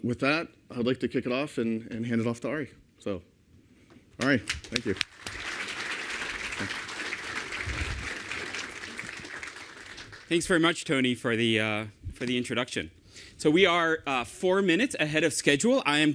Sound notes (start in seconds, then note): 4.2 applause